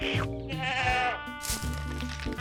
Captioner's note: bleating